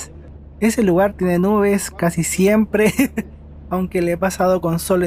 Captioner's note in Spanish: risas